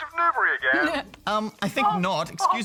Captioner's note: giggles